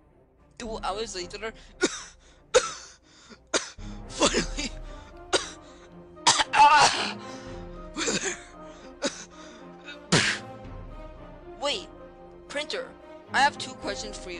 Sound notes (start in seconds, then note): 3.2 cough; 6.2 cut off cough; 9.8 cough; 10.0 cut off cough